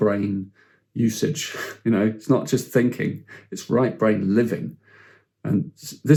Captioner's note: chuckles